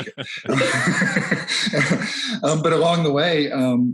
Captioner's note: laughs